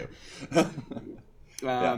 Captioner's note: laughter